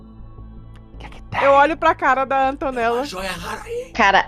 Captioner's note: whispering